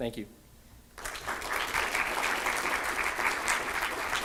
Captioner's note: applause